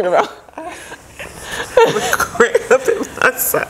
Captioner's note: laughing